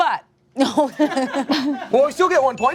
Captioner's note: all laughs